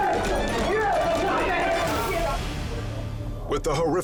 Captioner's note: men chanting